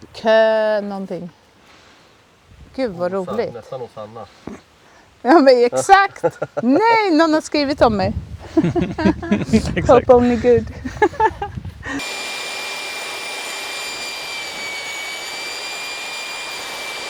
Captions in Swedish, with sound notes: Kö någonting. Gud vad rolig. Nästan hos Anna. Ja men exakt. Nej någon har skrivit om mig. Hope [skratt] only good.